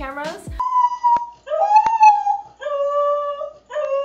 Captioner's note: corgi howling